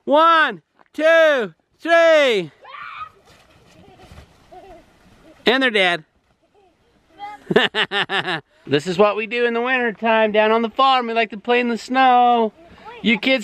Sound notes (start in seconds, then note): 3.5 kids laughing; 7.3 laughing